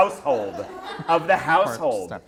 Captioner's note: laughter